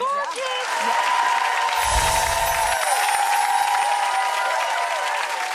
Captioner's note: audience applauding